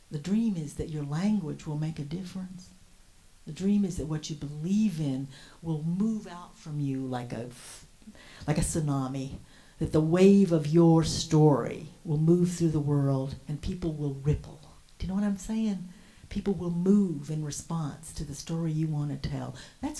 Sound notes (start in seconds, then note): none